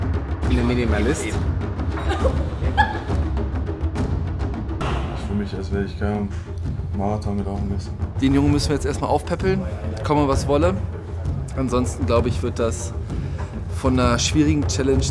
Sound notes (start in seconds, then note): 1.9 laughter, background